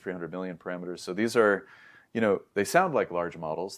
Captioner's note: inhales